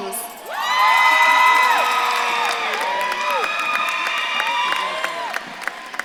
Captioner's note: audience claps and cheers